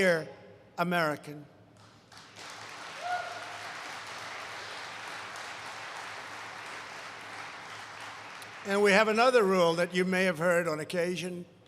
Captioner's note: applause